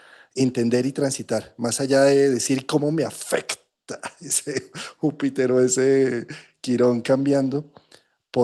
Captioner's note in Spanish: risas